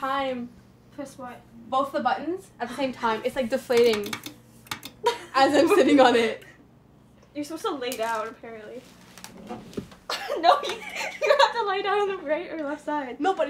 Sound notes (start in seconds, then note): 4.4 clicking; 10.0 laughs